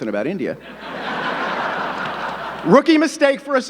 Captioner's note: audience laughing